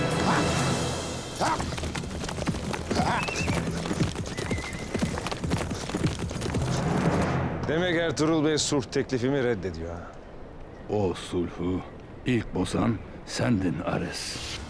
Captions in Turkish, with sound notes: (Bağırma sesi) (At kişneme sesi) Demek Ertuğrul Bey sulh teklifimi reddediyor ha? O sulhu ilk bozan sendin Ares.